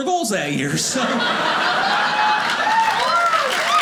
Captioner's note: audience laughing; audience applauding